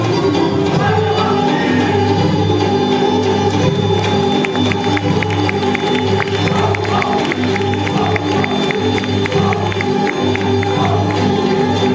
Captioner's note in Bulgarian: аплодисменти